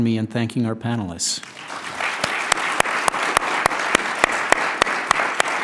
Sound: applause

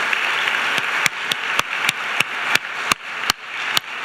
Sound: applause

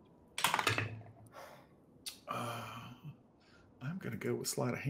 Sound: dice clacking

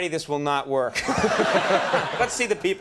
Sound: Conan and audience laughing

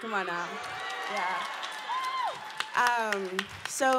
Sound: cheering

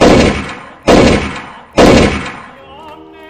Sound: bang!

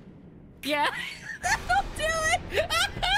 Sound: laughing; laughter

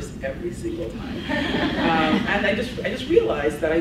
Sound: laughs

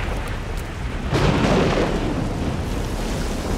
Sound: lightning crackling; raining

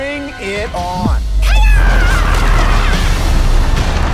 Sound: battle cry

